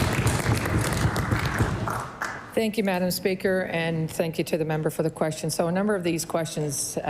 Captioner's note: applause